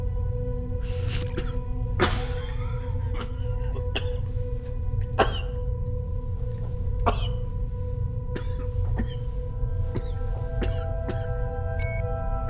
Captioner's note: coughing